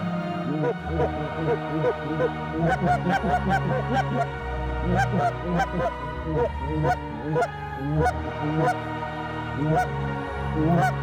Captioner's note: goose calls